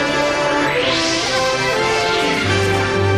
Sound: Minions Laughing

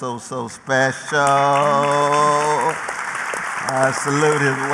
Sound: applause

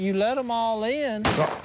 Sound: gunshot

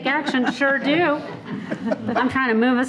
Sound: people laughing

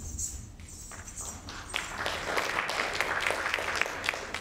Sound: audience claps

